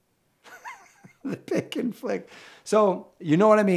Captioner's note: laughs